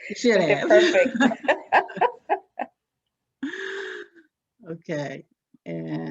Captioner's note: laughs